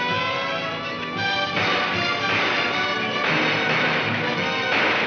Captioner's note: gunshots cracking